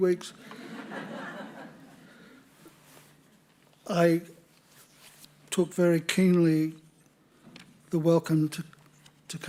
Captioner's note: laughter